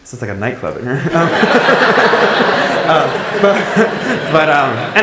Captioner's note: laughing